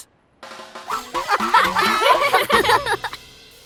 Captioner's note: giggling